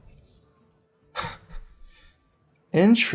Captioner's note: laughs